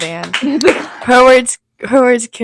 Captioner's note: clapping; laughs